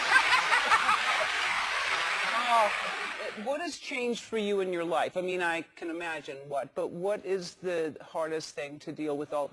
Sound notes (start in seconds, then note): 0.0 applause; 0.0 laugh